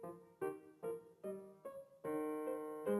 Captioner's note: none